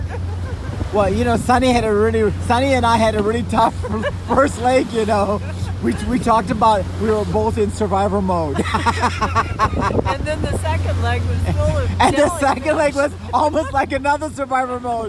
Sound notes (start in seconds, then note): 8.8 laughs